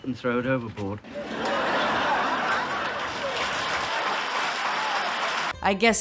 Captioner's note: background canned audience laugher & applause